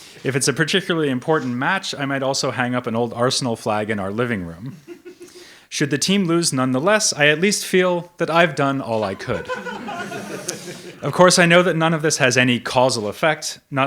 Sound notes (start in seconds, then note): 4.9 audience member laughs; 9.1 audience laughs